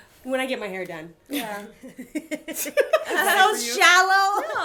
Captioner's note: laughter